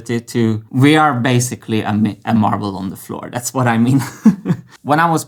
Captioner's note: chuckles